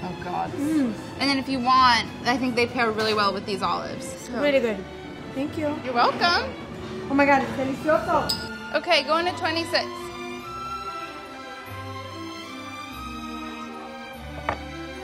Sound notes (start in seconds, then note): 7.7 speaking in foreign language; 10.1 gentle music